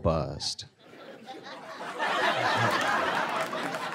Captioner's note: laughter